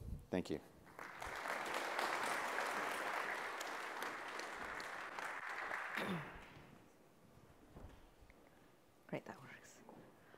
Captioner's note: applause